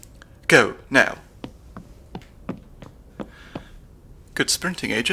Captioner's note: footsteps